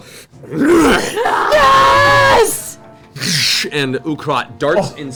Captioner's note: growls; all cheer